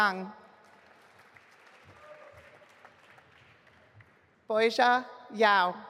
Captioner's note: audience applauding